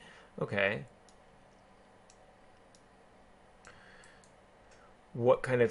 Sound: keyboarding

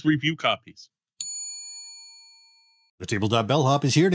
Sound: bell dings

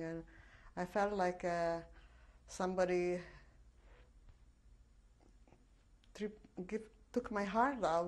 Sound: pauses for 3 seconds

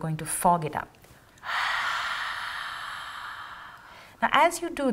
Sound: exhaling

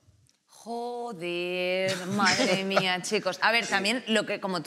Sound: some laugh

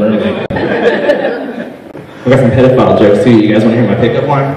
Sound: laughter

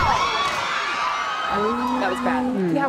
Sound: screaming

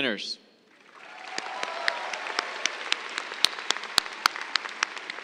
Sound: cheers, applause

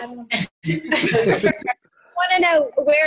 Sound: laughing

